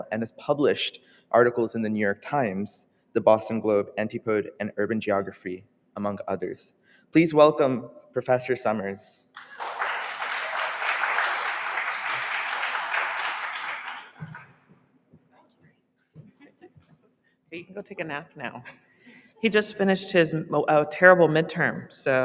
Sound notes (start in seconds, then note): 9.3 audience applauding